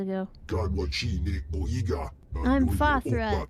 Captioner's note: speaking foreign language